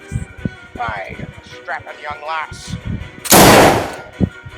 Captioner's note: fires gun